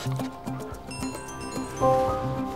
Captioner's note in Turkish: Telefon çalıyor